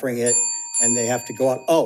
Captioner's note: bell dings